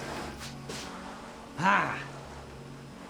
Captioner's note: vacuum humming